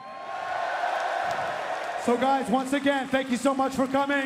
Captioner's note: crowd cheering